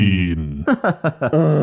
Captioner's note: groans; laughs